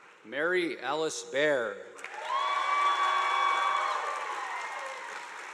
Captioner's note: audience applauding